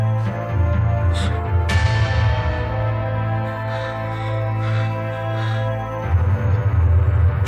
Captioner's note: Marlee gasping over tense and menacing orchestral music